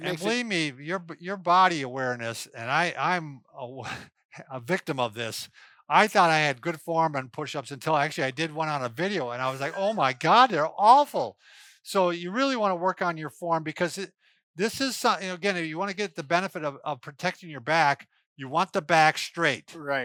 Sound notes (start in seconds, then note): 3.8 laughs; 9.4 laughs